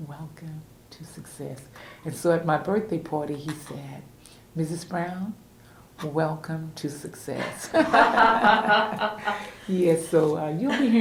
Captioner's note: laughter